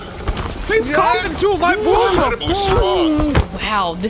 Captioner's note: Pleck yelps as the Aunt pulls him in